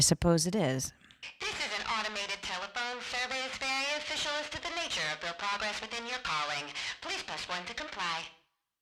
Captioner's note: static